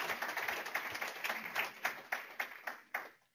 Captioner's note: applause